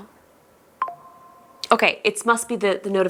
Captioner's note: TikTok notification alert